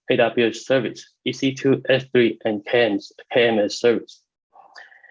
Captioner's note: murmurs